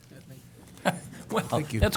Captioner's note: laughter